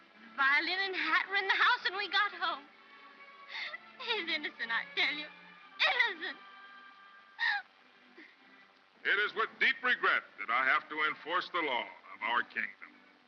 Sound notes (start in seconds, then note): 7.3 sobbing